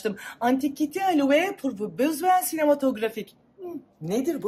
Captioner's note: speaks French